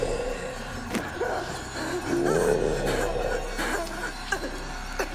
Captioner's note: Martha choking